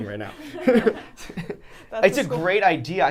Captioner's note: laugh